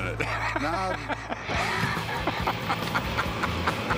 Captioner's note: laughter